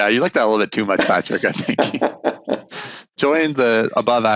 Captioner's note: laughs